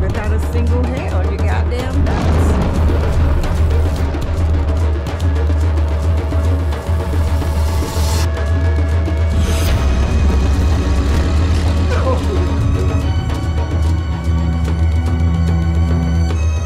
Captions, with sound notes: without a single hair on your goddamn chest. (lion roaring) (drumming intensifies) - No! (suspenseful music)